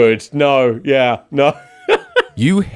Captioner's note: laughing